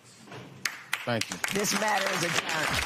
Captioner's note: applause